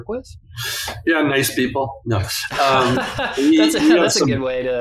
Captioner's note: laughs